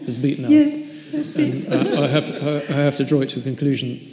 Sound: audience laughs

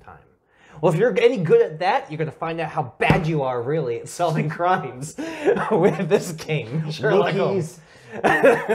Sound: giggle

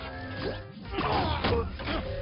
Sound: grunting

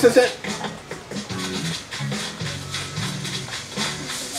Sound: footsteps; leaves rustling

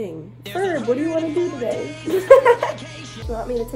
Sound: laughs

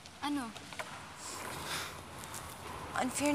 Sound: sighs

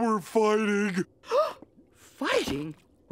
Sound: gasping

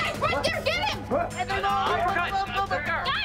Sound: yelling

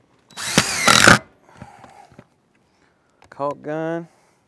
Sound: power tool whirring

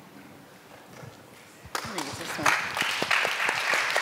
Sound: applause

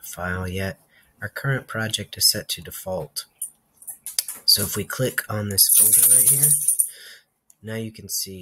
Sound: dog collar jingles

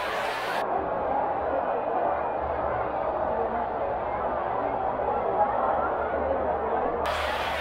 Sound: audience noise; muffled audience noise; audience noise

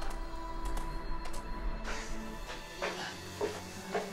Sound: panting

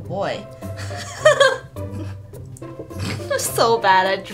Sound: laughs

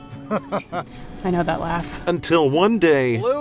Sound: off screen laugh; gasp

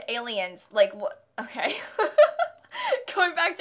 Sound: laughter

